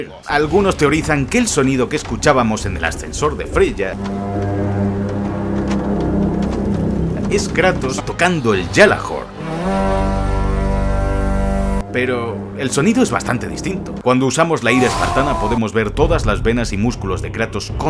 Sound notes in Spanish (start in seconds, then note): 4.0 Sonido ominoso; 9.4 Sonido del Gjallahorn